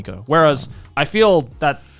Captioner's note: affirmative murmuring